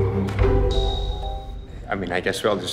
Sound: happy software noise

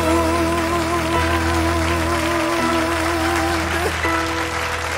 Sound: audience applauding

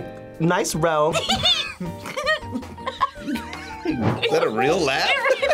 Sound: giggles

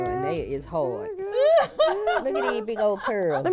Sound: laughs

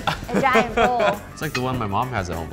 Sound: laughter

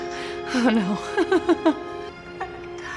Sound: Hailee laughs

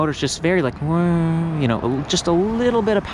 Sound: imitates bike whirring

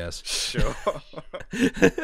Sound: laughter

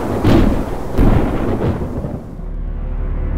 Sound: "Meteor" impacts planet

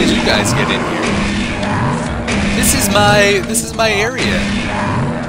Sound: gunfire and monster roars

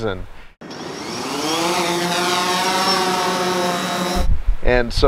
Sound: drone engine roaring

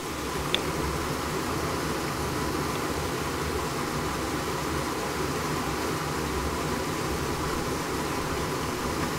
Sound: water rushing

